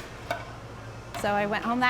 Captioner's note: plates clanking